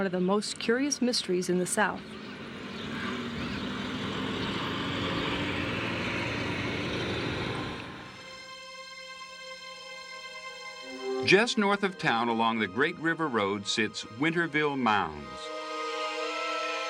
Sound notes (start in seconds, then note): 3.3 motors rumble; 8.4 gentle music; 16.7 slow gentle instrumental music